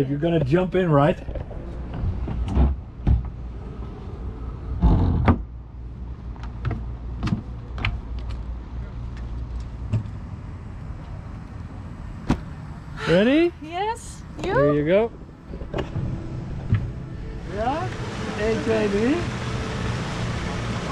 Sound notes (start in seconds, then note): 13.0 sighs; 17.7 speaks in Dutch